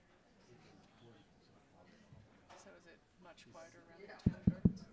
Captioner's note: background chatter